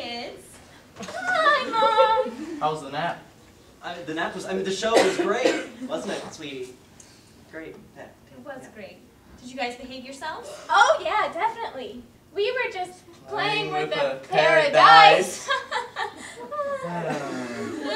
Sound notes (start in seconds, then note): 12.9 audience laugher